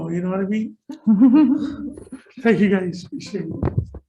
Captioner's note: laughing